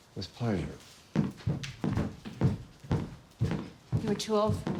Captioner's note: footsteps thudding